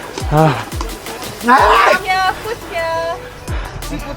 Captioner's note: shouts